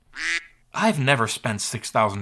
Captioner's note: duck quacks